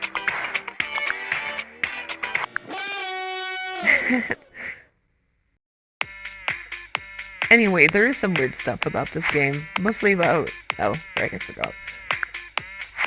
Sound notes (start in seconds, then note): 2.7 weird laugh